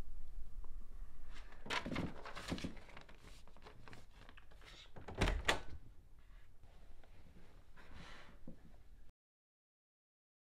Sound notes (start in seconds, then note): 0.7 door opens; 1.3 paper rustling